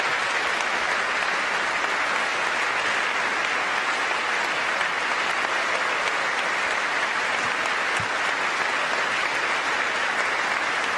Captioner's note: applause